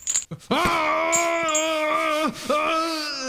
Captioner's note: screams